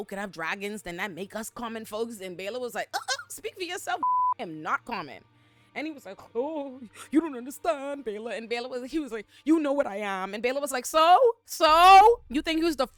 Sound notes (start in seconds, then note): 4.0 beep